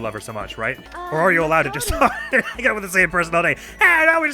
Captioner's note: guffaws